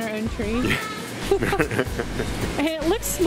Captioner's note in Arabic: ضحكات